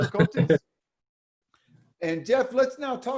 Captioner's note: laughs